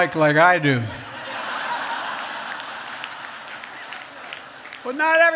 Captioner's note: laughter